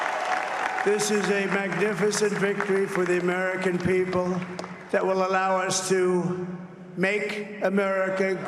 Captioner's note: cheers and applause